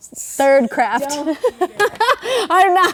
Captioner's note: laughing